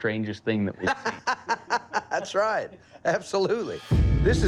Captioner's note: laughs